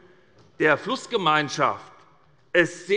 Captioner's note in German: none